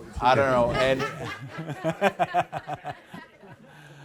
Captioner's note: laughter